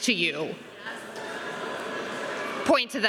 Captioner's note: students chattering